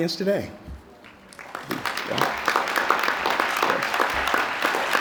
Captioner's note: applause